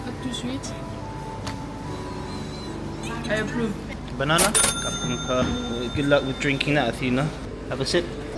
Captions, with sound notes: Not too sweet. I approve. - Banana. (bell rings) Good luck with drinking that Athena. Have a sip.